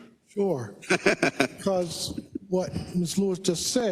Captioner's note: laugh